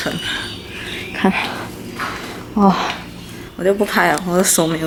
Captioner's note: whining